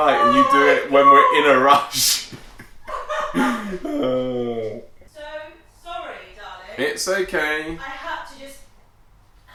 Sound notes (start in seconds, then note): 2.2 laughter